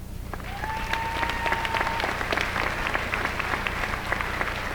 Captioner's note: applause